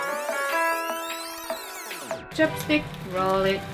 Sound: sound of rewinding

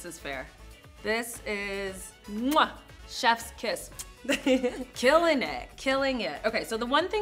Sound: kisses

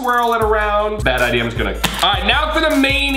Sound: slapping sound

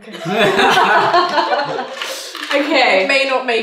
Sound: laughing

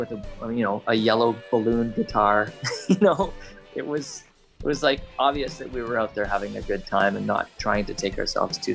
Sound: laughs

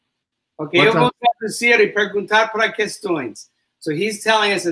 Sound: speaks portuguese

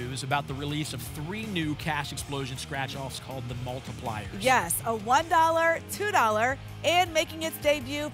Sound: none

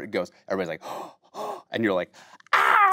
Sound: gasping

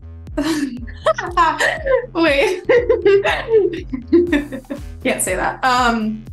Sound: laughs

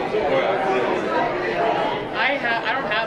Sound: group chattering

